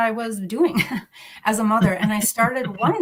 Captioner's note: laughs